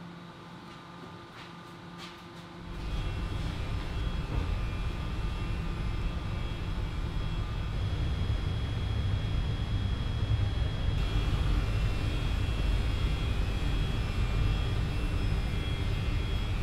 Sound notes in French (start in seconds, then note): 8.6 Bruit des ventilateurs d'un ordinateur